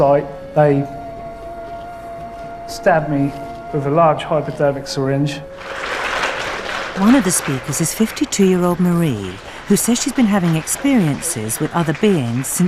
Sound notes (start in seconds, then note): 5.5 applause; 7.1 voiceover